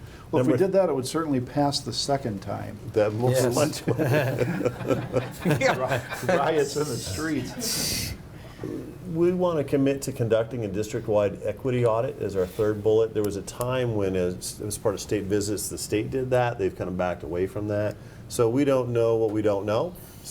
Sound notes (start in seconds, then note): 3.5 laughing